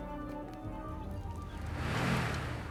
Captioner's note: engine Revving